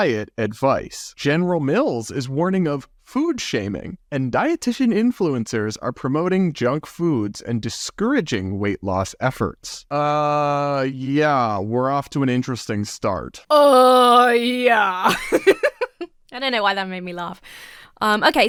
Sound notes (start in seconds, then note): 14.1 laughs